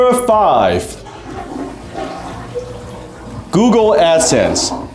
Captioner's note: toilet flushes